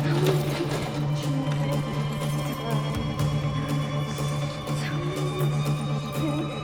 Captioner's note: Jane chatters; exciting and tense music